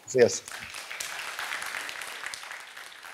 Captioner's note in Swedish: applåder